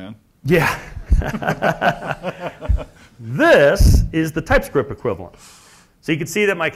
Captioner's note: laugh